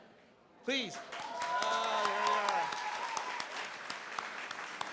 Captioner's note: cheering, applause